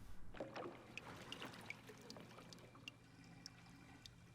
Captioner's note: water swashes